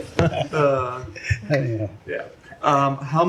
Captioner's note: laughter